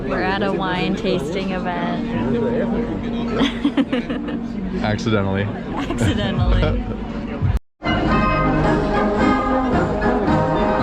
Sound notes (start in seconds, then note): 5.6 chuckle; 6.7 giggle; 7.8 live band music